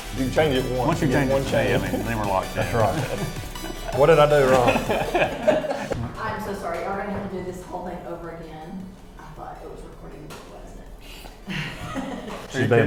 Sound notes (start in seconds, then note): 5.0 laughing